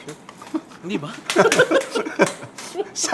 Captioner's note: laughs